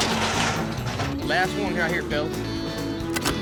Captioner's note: gate clanking